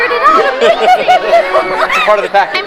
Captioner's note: laughing